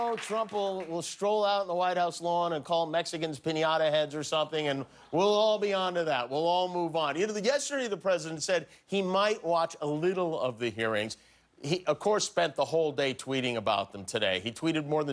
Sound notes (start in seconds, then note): 1.6 applause